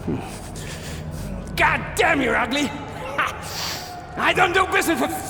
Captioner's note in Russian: взбудораженное пыхтение и дёргание; шмыгает